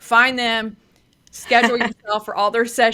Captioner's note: laughs